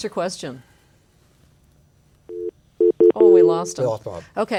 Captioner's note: telephone sound